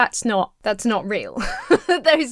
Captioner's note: laughs